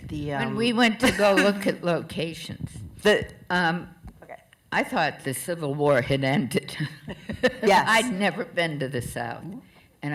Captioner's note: laughter